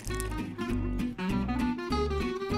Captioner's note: crunching bites